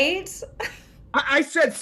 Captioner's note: laughing